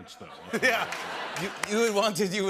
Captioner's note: laughter